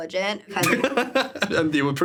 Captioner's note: laughing